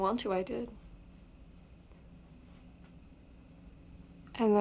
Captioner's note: crickets chirping